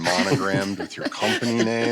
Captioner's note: laughter